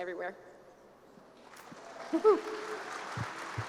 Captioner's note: applause